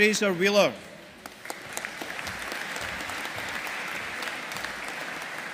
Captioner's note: audience applauding